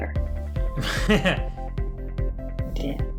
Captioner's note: laughs